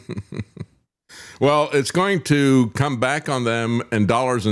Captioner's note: laughing